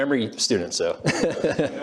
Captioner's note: laughs